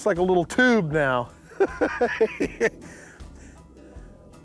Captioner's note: laughs